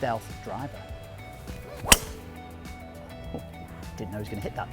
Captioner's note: hitting golf ball